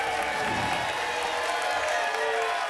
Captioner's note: applause and cheering; whoosh